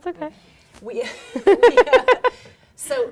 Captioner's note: laughing